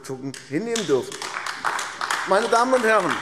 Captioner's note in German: Beifall AfD